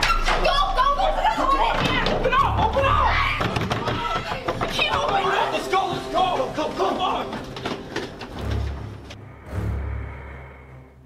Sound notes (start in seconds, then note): 3.5 hand banging; 7.1 suspenseful music